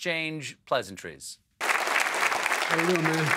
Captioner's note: applause